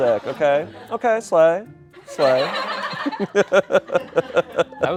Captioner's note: laughter